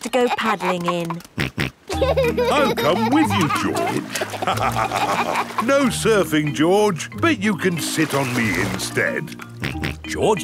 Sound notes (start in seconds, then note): 1.9 snorts and laughs; 4.7 both laugh; 9.8 snorts